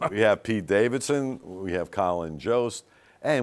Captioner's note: laughs